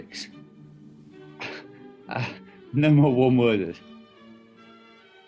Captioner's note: chuckles